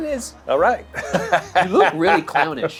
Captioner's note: laughs